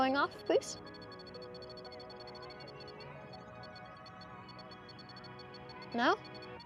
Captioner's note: REM-Pod sounds slow